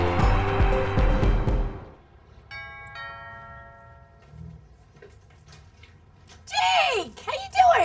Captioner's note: doorbell ringing